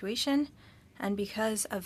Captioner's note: speaking French